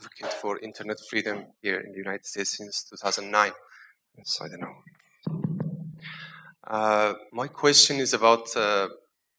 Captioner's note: taps mic